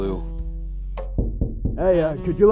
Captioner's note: knocking on glass